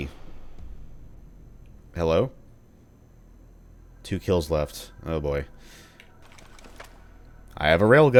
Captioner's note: doors open in the distance